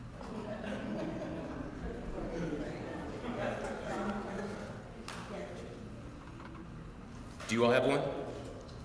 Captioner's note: laugh